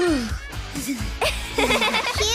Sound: laughing

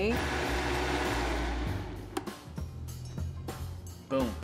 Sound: blender whirring

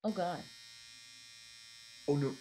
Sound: trimmer buzzing

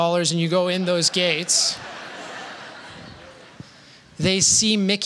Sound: laughter

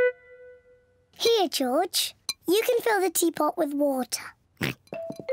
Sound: oinks

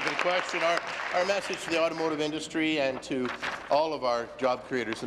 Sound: applause

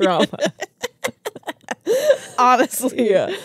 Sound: laugh

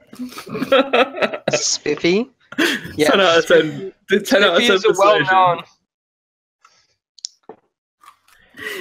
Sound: laughter

